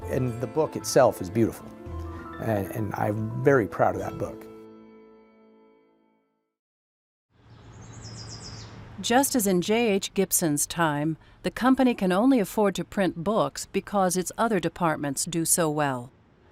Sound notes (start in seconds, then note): 7.4 birds chirping